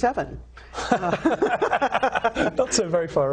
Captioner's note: laughing